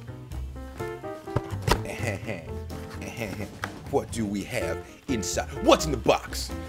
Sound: laugh

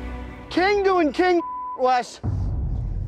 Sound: beep

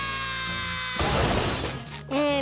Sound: screaming; crashing

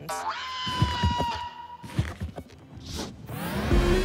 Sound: thumping

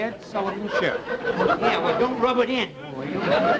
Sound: audience laughter

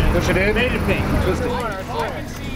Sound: speaking faintly

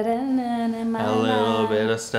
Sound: humming

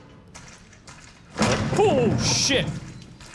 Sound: loud bang

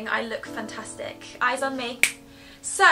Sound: clicks

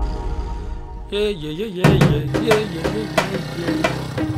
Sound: humming excitedly

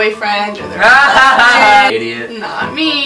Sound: laughs

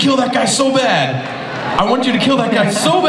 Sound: audience laughs

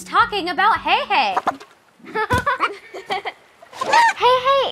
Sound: chicken clucking

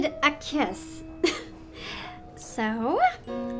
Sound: laughs

